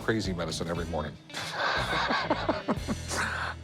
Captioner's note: chuckling